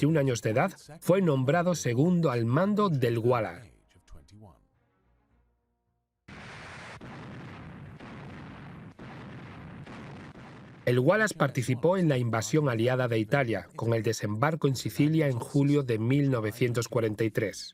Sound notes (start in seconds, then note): 6.3 guns firing